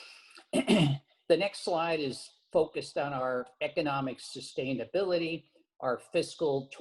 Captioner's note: cough